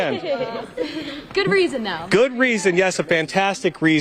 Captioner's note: laughter